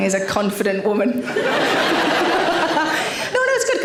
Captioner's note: audience laughing